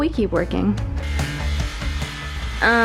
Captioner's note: more saw noises